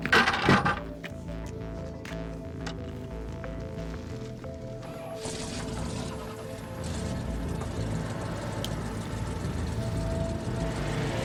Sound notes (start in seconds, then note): 4.9 vehicle revving; 5.3 dramatic music continues